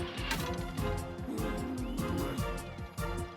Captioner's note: growl